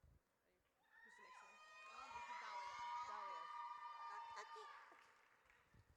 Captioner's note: audience cheers